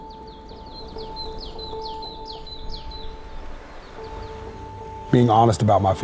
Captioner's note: birds chirping; gentle music